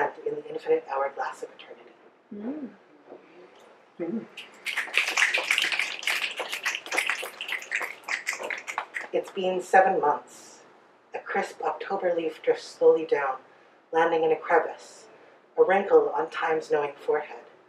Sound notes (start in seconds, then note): 2.1 audience mms and snaps